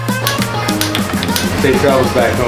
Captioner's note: electro-pop music; pumping air